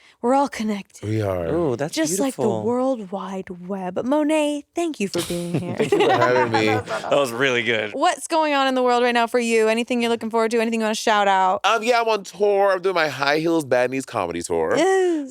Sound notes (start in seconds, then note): 5.1 laughing; 7.3 faintly speaking